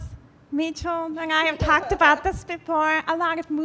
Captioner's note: laughing